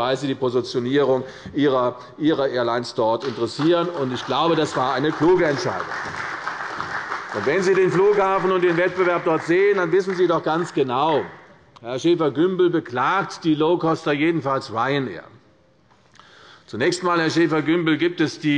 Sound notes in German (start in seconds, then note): 5.9 Beifall bei Abgeordneten der CDU